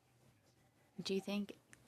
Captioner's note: speaking French